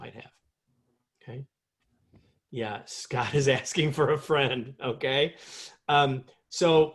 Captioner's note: laughter